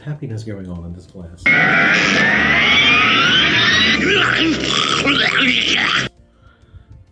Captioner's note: zooming around and being loud